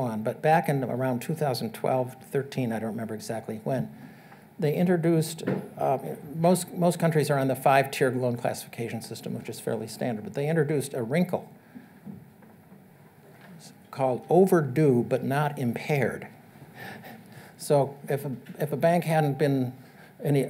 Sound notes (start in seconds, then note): 17.5 chuckles